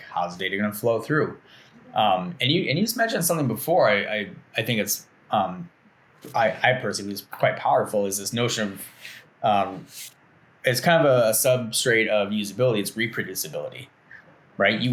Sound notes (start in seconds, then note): none